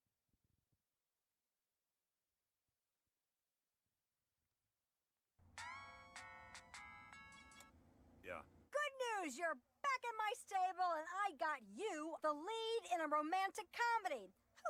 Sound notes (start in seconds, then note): 5.6 ringtone